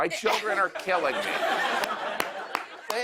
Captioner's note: laughter